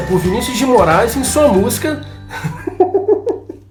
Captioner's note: laughs